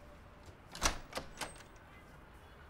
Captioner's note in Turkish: Kapı açılma sesi